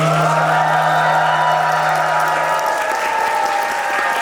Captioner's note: applause; cheers